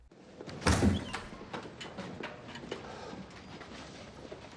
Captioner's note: doors open